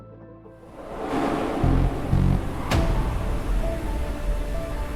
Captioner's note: transition whooshing; portal whooshing